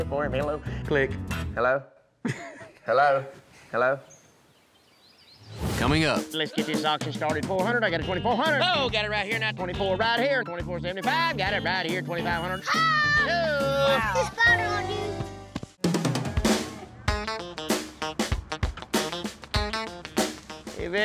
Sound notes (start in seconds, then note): 2.2 laughter